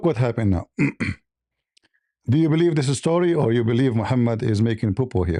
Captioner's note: berdehem